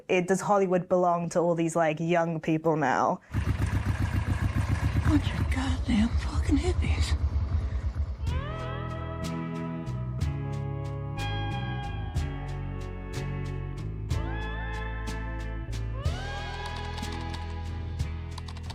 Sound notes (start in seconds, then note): 3.3 car rumbling; 8.3 bluesy guitar music